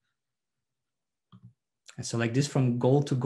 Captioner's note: mouse clicks